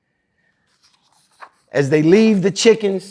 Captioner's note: pages rustling